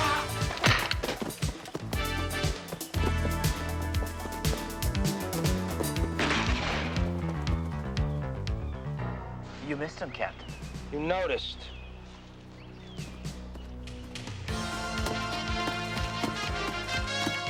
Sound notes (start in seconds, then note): 0.2 dramatic music; 0.2 man yelling; 6.2 gun firing; 13.7 dramatic music